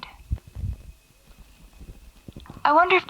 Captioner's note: static crackles